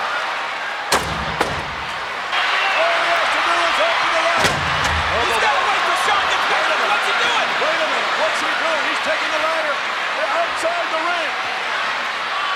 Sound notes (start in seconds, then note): 0.9 ladder clunking; 4.3 ladder clunking